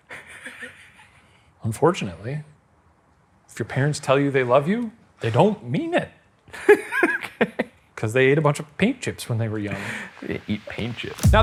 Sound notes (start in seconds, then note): 0.0 chuckles; 6.8 laughs